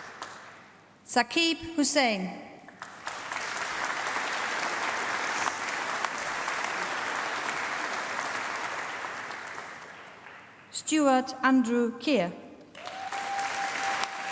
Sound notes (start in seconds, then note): 2.7 applause; 12.7 applause